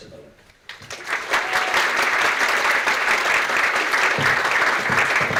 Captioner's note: audience clapping